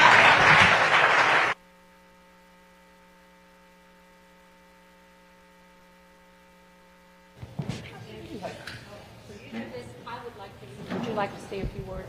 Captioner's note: applause